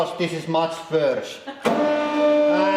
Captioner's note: chuckle